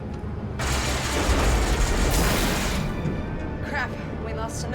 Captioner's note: engines sputtering